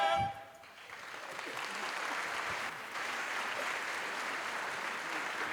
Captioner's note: applause